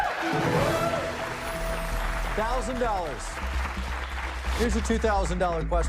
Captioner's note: cheers and applause